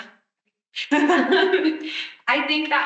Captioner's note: attendee laughing